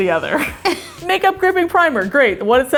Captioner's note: laughing